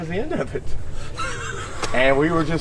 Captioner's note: laughing